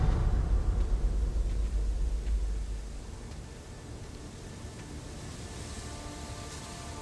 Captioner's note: wind whooshing